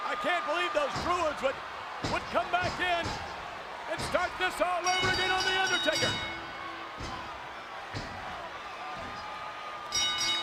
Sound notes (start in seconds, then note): 4.8 bell rings; 8.7 crowd jeers; 9.9 bell rings